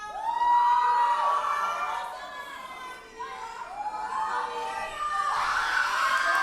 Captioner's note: audience cheers and applauds